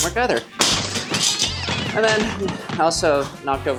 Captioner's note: clamps clanging